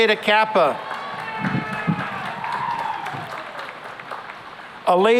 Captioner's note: cheering and applause